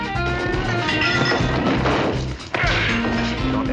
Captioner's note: glass breaking